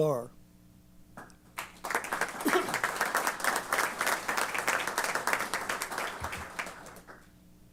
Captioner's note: applause